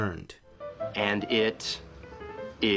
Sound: voiceover

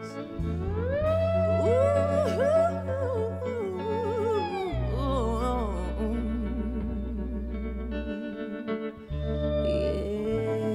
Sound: vocalizing

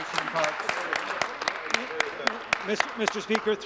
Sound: applause

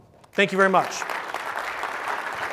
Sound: applause

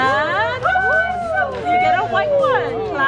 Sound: excited exclaiming

